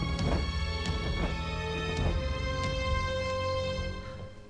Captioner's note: feathers flap